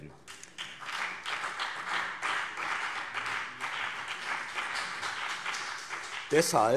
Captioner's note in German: Beifall BÜNDNIS 90/DIE GRÜNEN und CDU